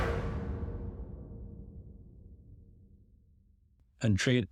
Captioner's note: percussive echo